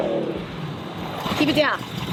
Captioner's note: automobile engine